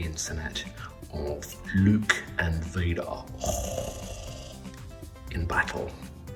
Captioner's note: heavy breathing